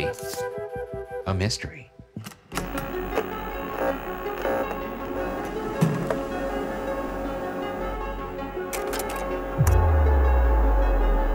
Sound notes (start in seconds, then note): 0.2 pointer scraping; 2.6 suspenseful music playing; 4.5 electronic interference buzzing; 8.7 slides clicking; 11.1 electronic interference buzzing